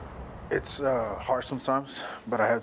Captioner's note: none